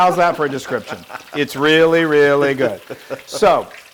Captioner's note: laugh